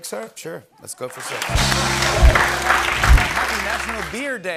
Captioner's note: applause